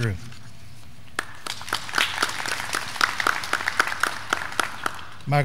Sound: graduands clapping

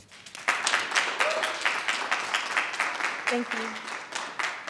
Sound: audience clapping

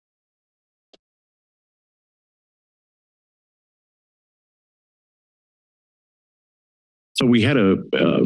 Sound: silence

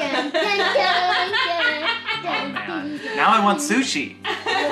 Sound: laughing

